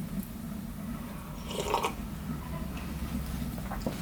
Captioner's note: slurp